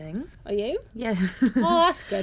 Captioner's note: laughs